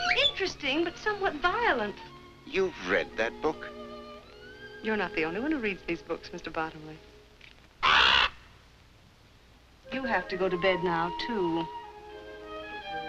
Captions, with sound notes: Interesting, but somewhat violent. You've read that book. You're not the only one who read these books, Mr. Bottomley. [parrot squacks] You'll have to go to bed now too.